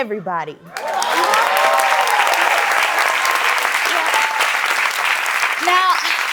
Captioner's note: applause